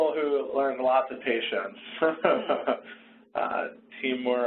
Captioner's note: laughs